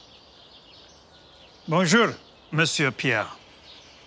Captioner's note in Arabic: تكلم الفرنسية